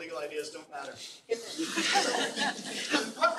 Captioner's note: laughter